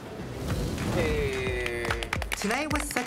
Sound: applauding

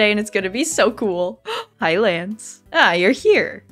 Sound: gasp

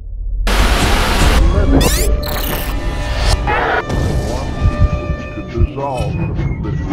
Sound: TV static buzzes

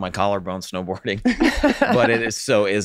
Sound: all laughing

